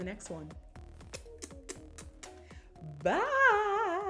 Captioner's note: kisses